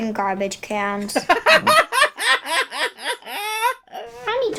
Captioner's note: bursts out laughing